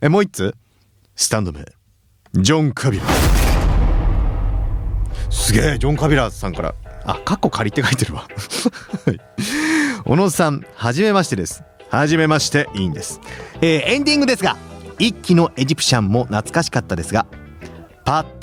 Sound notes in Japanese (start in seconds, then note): 9.1 笑い